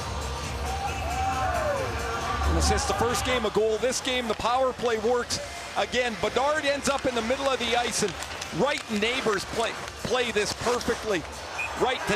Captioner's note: cheering and Applause